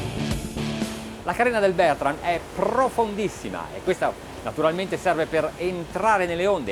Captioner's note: speaking in foreign language